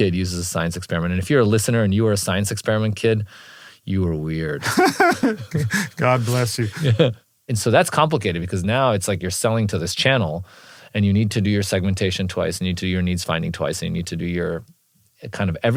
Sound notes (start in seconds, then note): 4.6 laugh